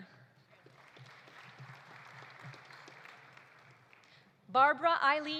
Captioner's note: audience applauding